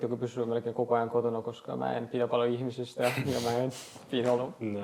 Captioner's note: laughs